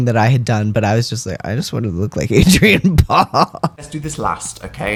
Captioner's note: laugh